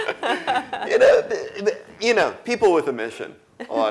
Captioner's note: laugh